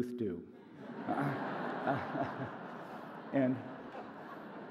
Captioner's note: audience laughs